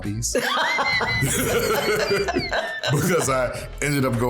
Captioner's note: laughter